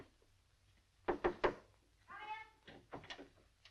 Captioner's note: knocking